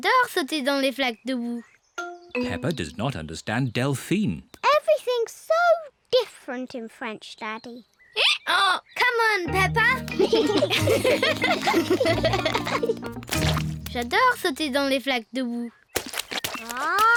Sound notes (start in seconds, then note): 10.0 both giggle; 10.3 brays